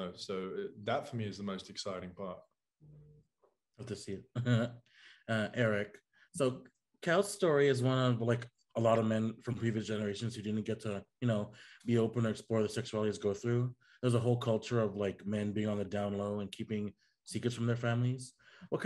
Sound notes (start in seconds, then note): 4.3 chuckling